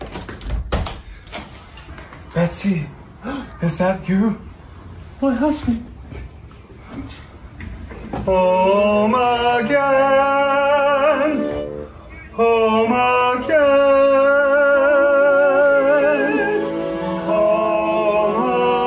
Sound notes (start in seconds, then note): 3.2 gasps